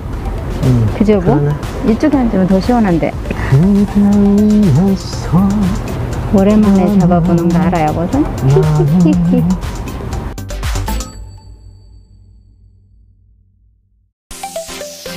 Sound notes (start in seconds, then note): 4.9 song humming~~